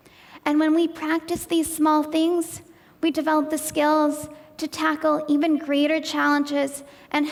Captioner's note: none